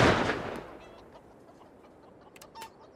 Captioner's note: chickens clucking